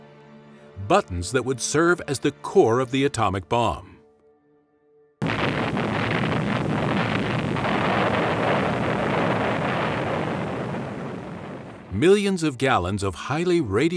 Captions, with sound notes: buttons that would serve as the core of the atomic bomb [Loud explosion] Millions of gallons of highly radioactive